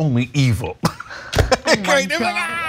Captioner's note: laugh